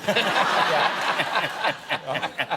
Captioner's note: laughter